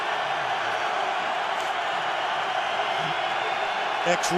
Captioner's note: cheering